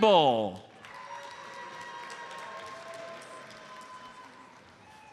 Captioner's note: audience applauds